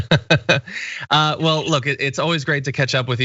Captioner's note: laugh